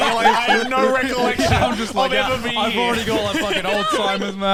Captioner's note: men laugh